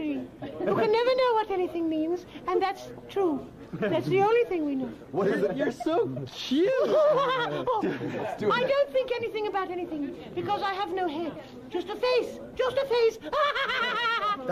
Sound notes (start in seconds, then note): 5.4 giggles; 13.1 laughing